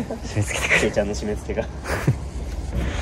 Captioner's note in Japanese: 笑う